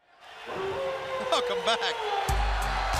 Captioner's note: crowd cheering